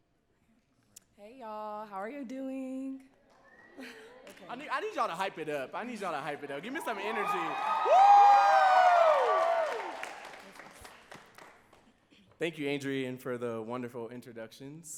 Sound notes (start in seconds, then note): 8.0 audience cheering and clapping